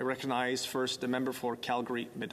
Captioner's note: speaking French